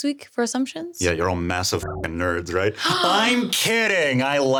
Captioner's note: buzzing